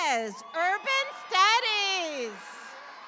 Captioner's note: audience applauds